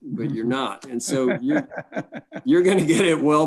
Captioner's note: laughs